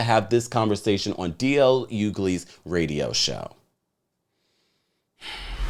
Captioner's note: sighs; whoosh